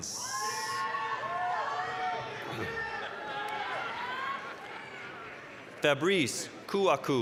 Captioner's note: applause, cheering